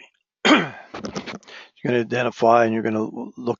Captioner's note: cough